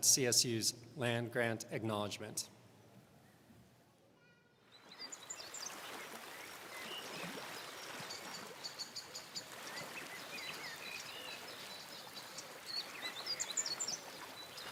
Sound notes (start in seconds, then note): 4.6 birds chirping; 4.9 water rushing